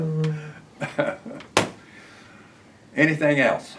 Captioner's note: laughter